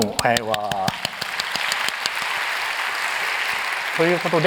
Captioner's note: applause